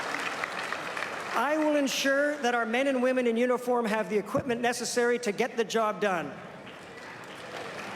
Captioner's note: applause